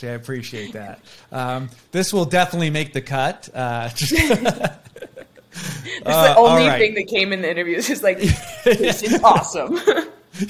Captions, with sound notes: I appreciate that. This will definitely make the cut. (laughing) - It's the only thing that came in the interviews, he was like, this is awesome.